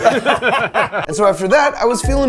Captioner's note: people laughing